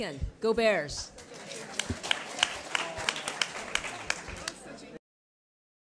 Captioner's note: attendees applauding